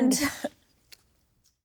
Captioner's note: laughs